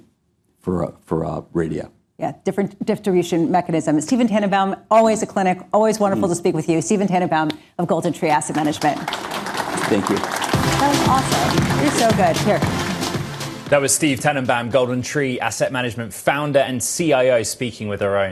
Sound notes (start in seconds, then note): 8.2 applause